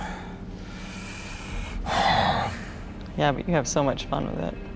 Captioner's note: breathes deeply